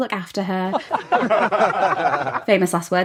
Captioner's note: laughing